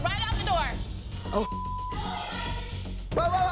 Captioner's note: yelling continues